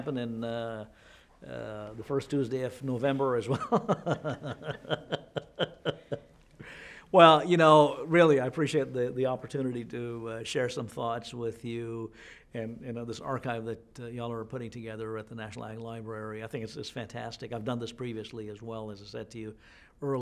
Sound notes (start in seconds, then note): 3.5 laughter